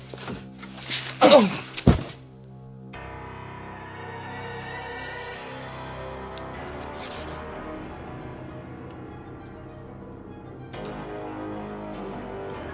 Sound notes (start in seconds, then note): 1.0 knocking; 1.2 thud